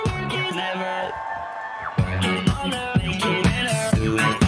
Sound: audience cheers

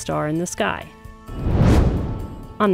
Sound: whoosh

